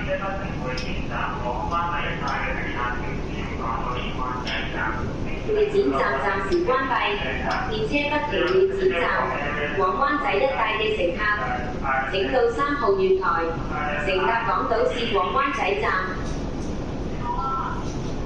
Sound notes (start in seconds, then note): 5.3 Cantonese